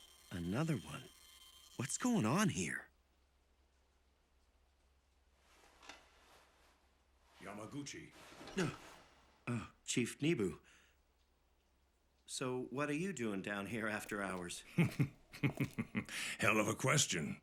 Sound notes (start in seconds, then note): 8.3 gasps; 14.0 chuckling